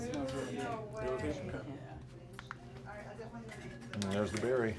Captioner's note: crowd talking